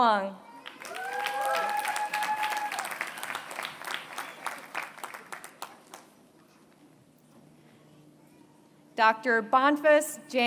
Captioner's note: applause